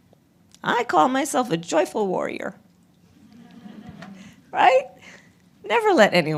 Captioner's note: laughter